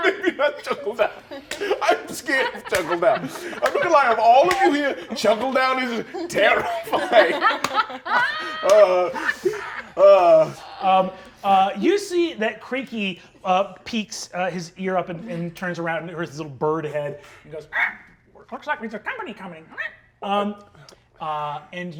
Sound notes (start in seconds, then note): 7.9 laughing; 18.0 squawks